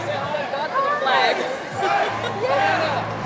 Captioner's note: laughs